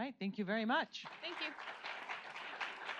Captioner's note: audience applauds